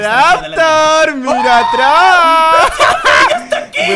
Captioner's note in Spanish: Grita